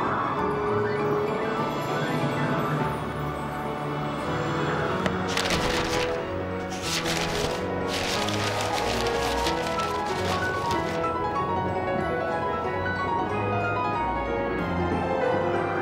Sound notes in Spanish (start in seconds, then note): 0.1 música espeluznante; 5.1 páginas revoloteando